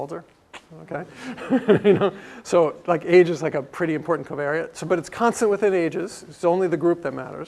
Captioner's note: laugh